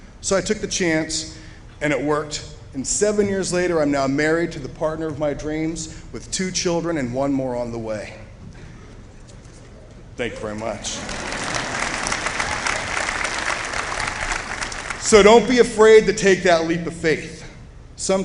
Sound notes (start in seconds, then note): 10.9 applause